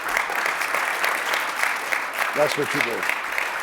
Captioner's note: applause